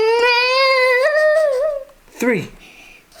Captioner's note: whines